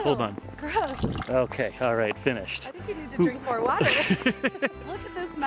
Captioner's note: laughs